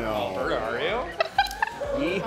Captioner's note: laughing